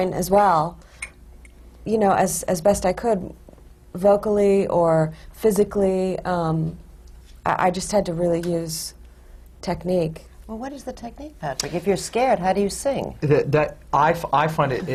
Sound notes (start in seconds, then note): none